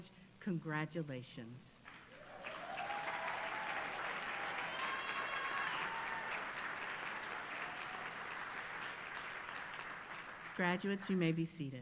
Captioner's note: applause